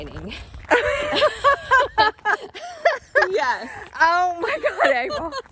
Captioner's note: both laughing